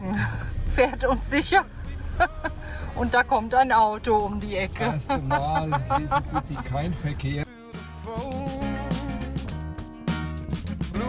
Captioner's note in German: gelächter